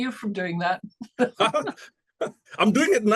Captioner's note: laughing